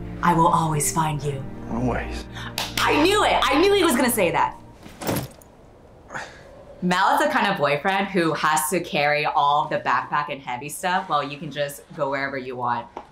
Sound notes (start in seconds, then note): 2.5 clapping; 4.8 backpack hits the ground